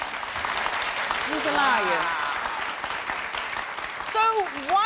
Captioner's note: audience applauding